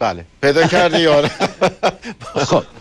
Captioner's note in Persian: خنده